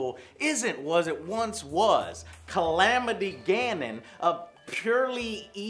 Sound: none

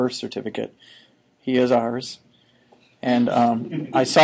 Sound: students chuckling

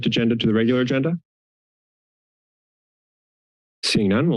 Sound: silence

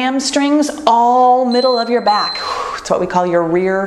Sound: timer beeps

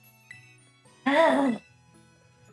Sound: disgruntled noises

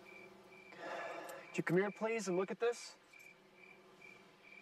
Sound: sighs

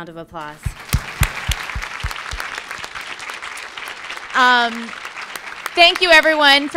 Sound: applause

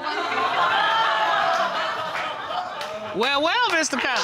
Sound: audience laughing

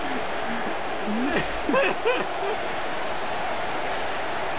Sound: laughter Dies Down

